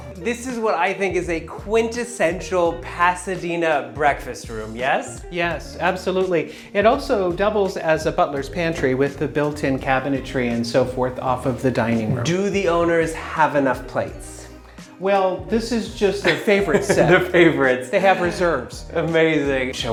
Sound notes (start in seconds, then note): 16.2 laughs